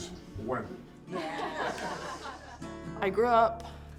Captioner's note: laughing